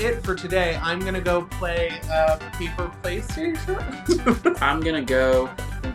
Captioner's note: laughs